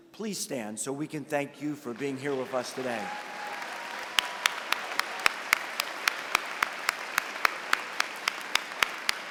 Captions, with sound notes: Please stand so we can thank you for being here with us today. [CHEERING AND APPLAUSE]